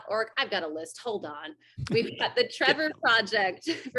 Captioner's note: laughs